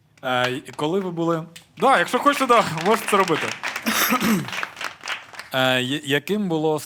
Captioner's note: applaud